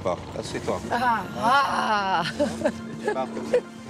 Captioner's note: laughs